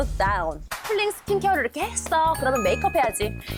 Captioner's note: moving to the next step sound effect